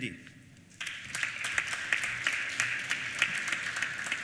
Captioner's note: applause